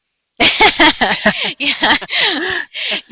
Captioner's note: laughing